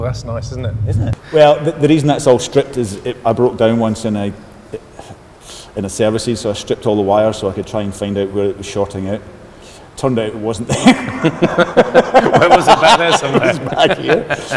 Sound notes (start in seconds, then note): 10.6 laughter